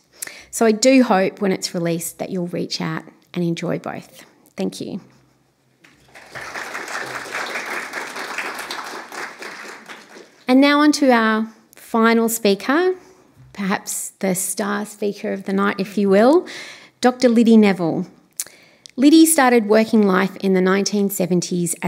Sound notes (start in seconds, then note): 5.9 applause